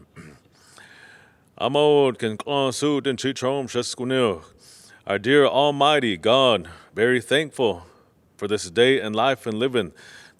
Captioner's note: non-english